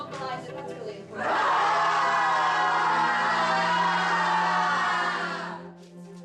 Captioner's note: yelling